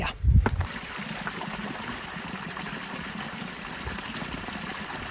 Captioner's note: water splashing